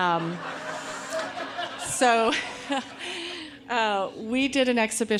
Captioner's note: audience laughing